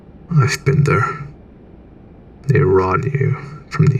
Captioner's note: none